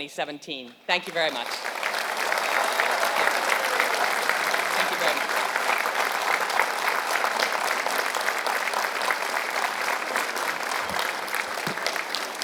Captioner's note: applause